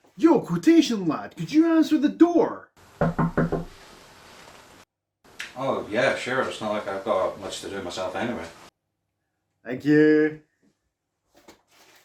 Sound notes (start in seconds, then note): 3.0 knock at door